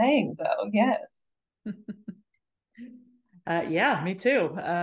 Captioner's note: chuckles